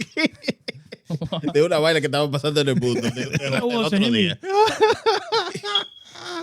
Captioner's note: laughing; speaking In Foreign Language